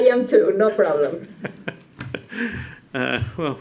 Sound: laughter

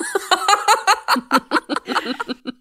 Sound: laughing

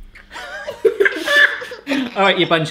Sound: laughter

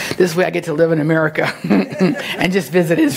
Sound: laughs

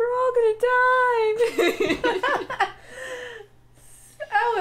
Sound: laughter

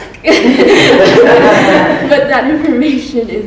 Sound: everyone laughs

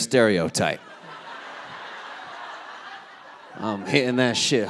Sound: audience laughing

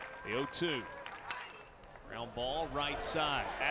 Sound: crack of bat

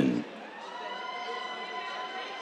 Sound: cheers

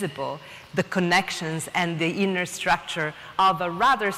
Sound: none

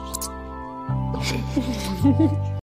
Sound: laughs

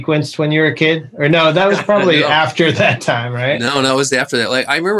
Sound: laughter

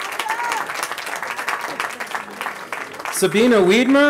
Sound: applause

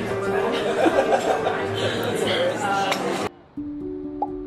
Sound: group chattering; soft music

